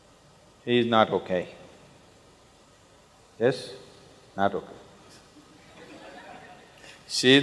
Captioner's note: laughter